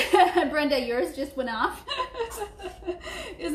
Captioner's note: laughing